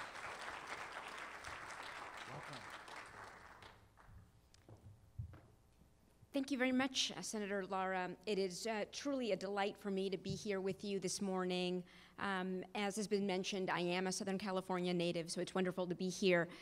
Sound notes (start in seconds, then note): 2.9 applause